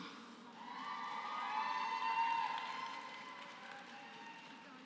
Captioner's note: applause